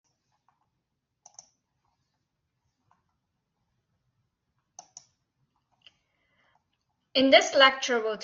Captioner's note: silence